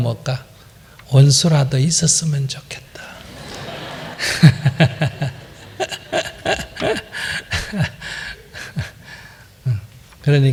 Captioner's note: audience/ Laughter